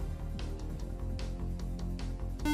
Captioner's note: beep